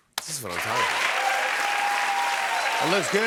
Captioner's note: applause